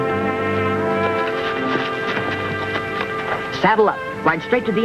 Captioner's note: feet pattering